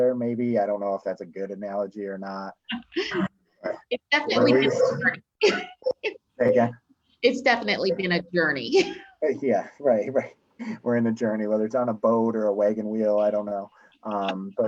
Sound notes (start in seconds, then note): 2.5 laughs